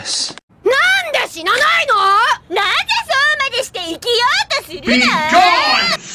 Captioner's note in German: wütende japanische Geräusche